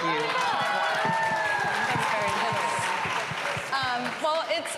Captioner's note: cheering and applause